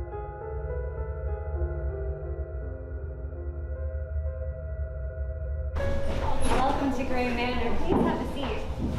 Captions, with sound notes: [Eerie noises start to be heard] Welcome to Gray Manor, please have a seat.